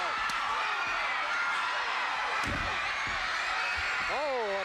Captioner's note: audience cheering